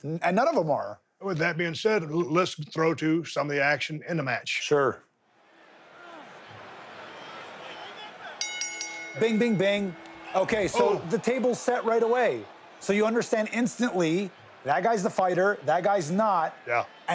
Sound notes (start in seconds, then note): 5.9 bell dings; 5.9 crowd cheering